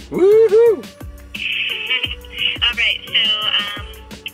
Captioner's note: laughs at stupidity